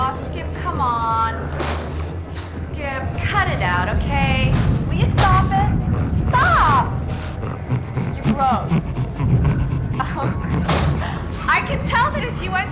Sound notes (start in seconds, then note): 7.1 Skip grunts; 9.9 chuckles